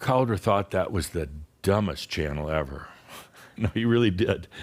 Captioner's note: chuckling